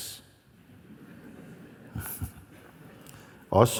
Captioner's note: laughter